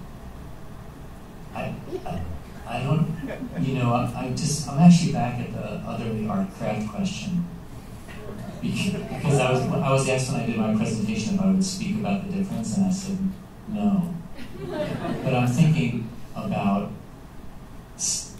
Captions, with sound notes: I don't-- I'm actually back at the otherly art craft question-- [soft laughter] --because I was asked when I did my presentation if I would speak about the difference, and I said no. [laughter] But I'm thinking about--